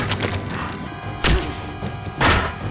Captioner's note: face thuds; fist thuds; head thuds